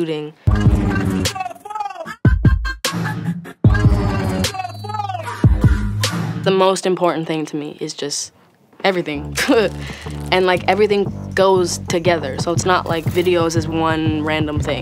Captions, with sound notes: [UPBEAT MUSIC PLAYING] The most important to me is just everything. [LAUGHS] And like everything goes together, so, it's not like videos is one random thing